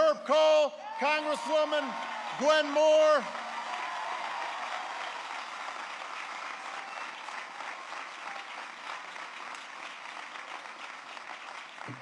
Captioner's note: applause